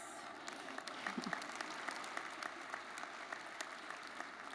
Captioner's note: crowd applauding